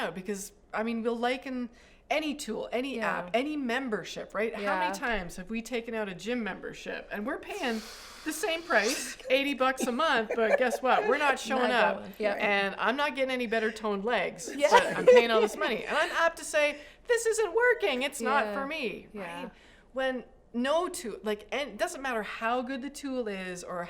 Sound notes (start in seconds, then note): 9.7 laughter